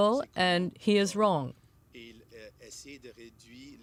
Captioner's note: speaking French